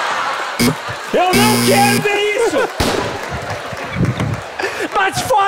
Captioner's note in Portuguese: campainha